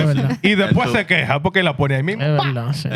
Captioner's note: speaking Spanish